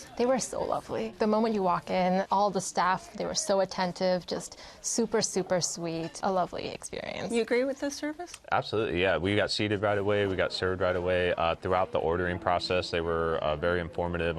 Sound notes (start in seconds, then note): none